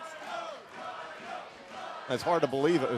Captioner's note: crowd cheering